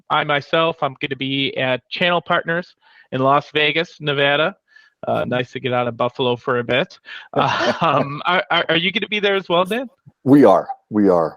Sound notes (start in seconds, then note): 7.1 laughs